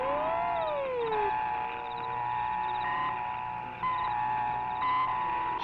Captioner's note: soft buzzing